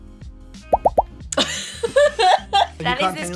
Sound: upbeat music; popping sounds; laugh

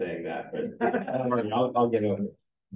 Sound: everyone chuckling

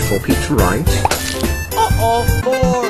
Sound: pops SFX

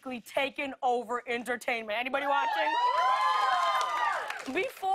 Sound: cheers and applause

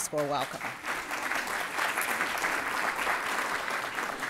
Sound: audience clapping

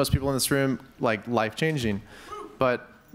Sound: audience member cheers

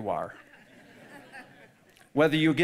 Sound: audience laughing

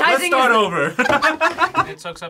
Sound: both laugh

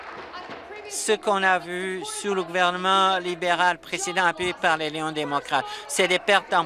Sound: applause

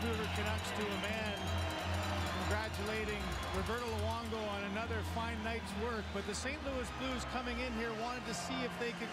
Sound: cheers and applause

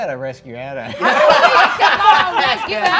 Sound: all laughing

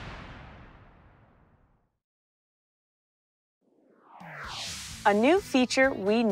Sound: whoosh sfx

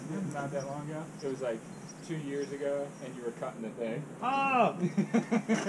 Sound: laughs

